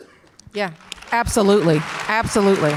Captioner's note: audience applause